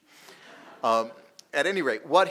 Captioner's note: audience laughing